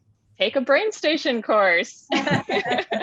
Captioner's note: laughing